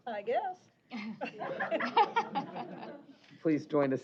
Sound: laughter

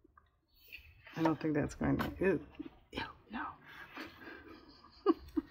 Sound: laughs

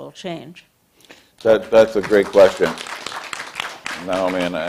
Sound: applause

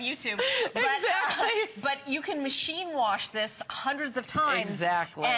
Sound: laughter

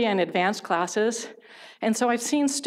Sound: none

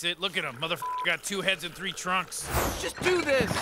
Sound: beep

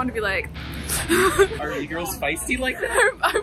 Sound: laughs

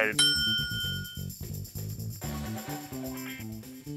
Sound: bell dings

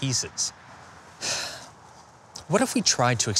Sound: sigh

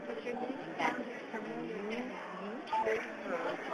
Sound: crowd murmuring

